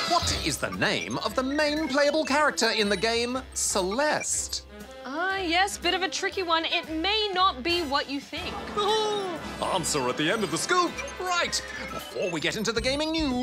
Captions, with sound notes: What is the name of the main playable character in the game Celeste? Ah, yes. Bit of a tricky one. It may not be what you think. (AUDIENCE MURMURS) (CHUCKLES) Answer at the end of The Scoop! Right, before we get into the gaming news,